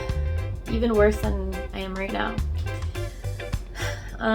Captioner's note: sigh